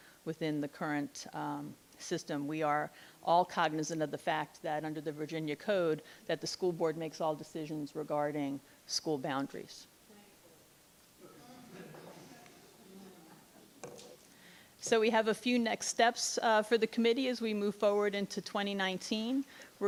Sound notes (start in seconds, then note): 11.2 laughing